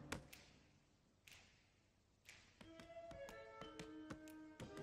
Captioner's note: fingers snapping